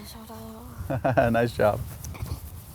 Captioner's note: giggles